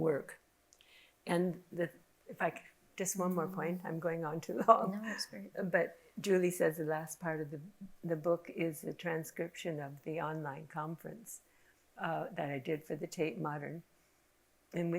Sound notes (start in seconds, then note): none